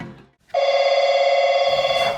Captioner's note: phone rings